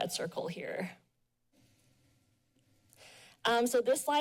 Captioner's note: pause